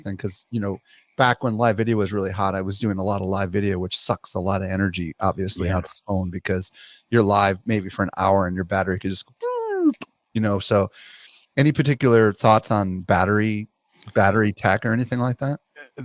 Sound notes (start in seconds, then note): 10.4 vocalizes